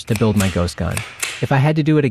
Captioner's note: gun clicks